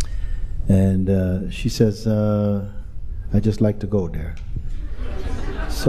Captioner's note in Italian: Risate